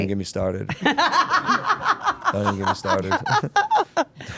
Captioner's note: group laughing